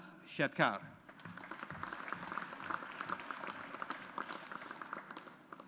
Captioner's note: audience applauds